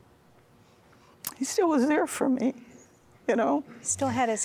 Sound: weeping

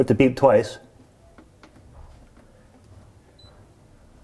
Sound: beeping

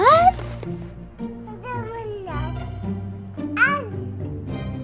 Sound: baby babbling

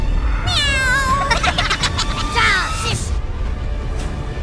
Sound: Minions laugh

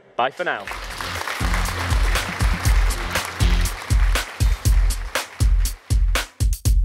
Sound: audience applauding; upbeat music

